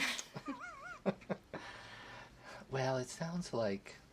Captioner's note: laughter